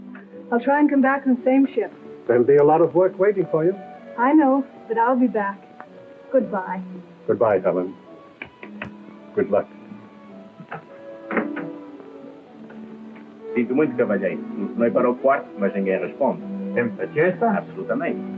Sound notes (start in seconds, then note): 13.5 speaking portuguese; 16.3 speaking portuguese